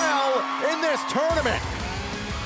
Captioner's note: bell ringing